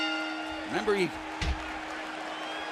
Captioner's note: bell ringing